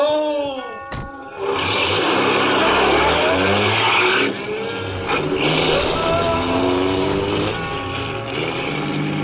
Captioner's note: car engine starts, car speeds off ... engine continues in bg